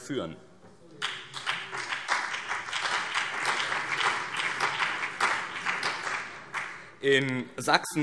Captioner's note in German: Beifall BÜNDNIS 90/DIE GRÜNEN und CDU